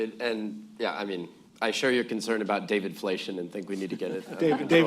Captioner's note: laughter